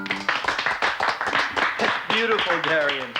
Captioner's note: applauding